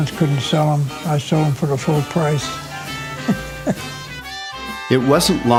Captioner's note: chuckle